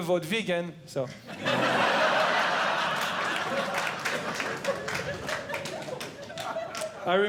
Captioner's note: audience Laughing